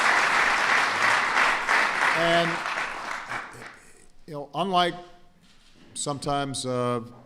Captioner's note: applause